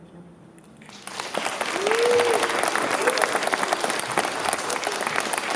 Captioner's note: applause